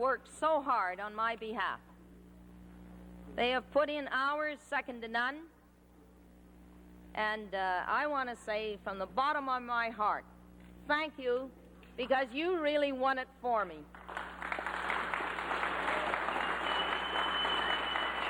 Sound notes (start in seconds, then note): 13.9 applause